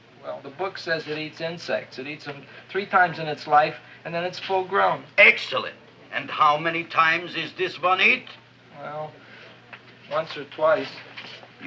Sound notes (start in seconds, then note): none